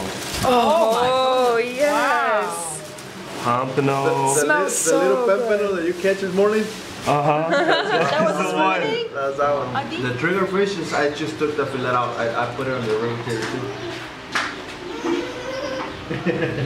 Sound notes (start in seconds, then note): 7.5 laughing; 14.9 little girl laughing